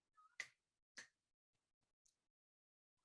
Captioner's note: snaps